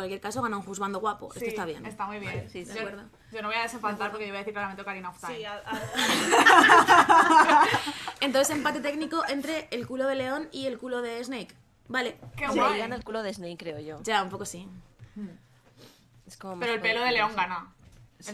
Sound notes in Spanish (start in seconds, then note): 5.7 risas